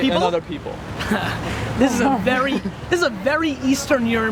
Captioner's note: laughs